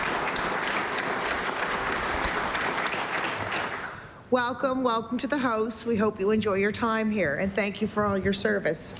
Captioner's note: applause